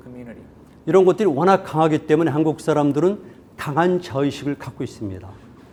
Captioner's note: speaking in Korean